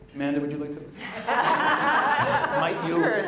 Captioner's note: laughter